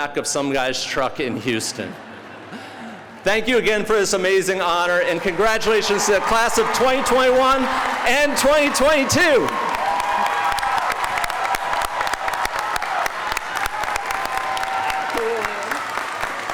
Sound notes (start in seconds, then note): 10.0 audience cheering